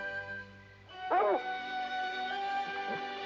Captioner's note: dogs barking; gentle music